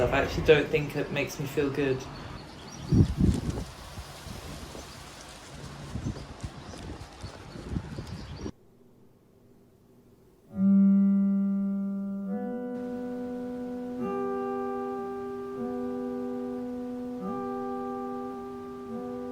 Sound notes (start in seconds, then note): 1.2 leaves rustling, birdsong; 10.4 sad guitar notes